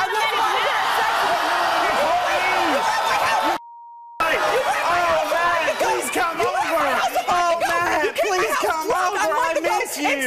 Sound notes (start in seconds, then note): 1.6 crowd jeers